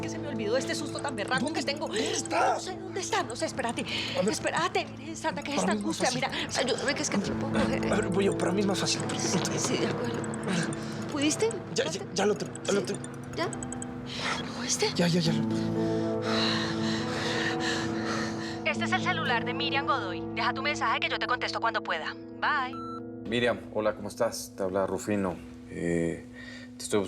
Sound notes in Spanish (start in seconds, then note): 13.1 suena el celular; 19.3 voz de la contestadora